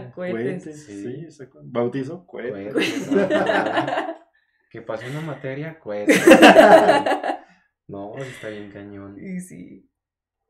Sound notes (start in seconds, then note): 2.7 laughter; 6.1 more laughter